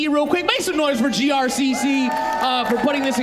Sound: audience cheering

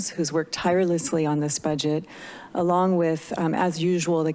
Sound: inhales

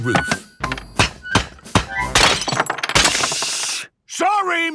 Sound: banging, crashing

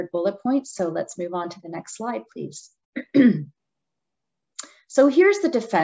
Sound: clears throat

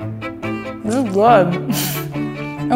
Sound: laughs

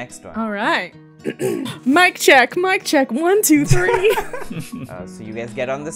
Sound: ahem!; laughter

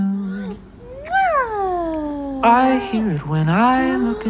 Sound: lips smacking

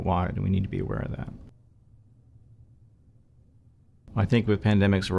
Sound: silence

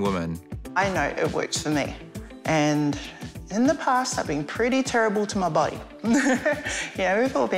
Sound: chuckles

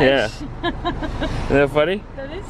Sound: laughing

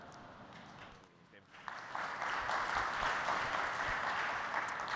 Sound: applause

